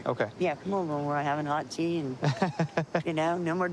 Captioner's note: laughs